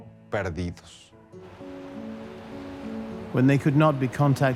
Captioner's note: in English